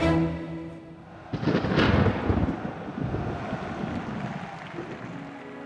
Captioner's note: dramatic orchestral music; thunder rumbles